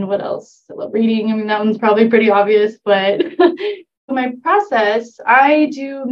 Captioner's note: laughter